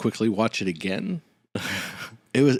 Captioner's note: laughs